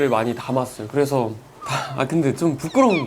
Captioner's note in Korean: 하아